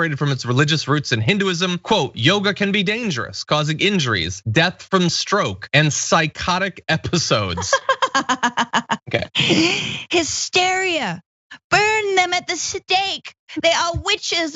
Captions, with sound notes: from its religious roots in Hinduism quote. Yoga can be dangerous causing injuries, death from stroke and psychotic episodes. >> [LAUGH] Hysteria burn them at the stick they are witches look,